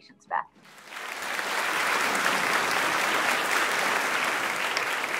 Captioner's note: audience clapping